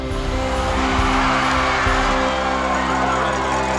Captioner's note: cheering